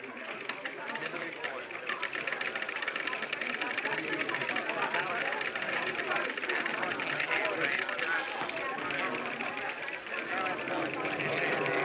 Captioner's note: ticker tape machines clattering, overlapping indistinct voices